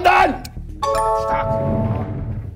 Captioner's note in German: Klingeln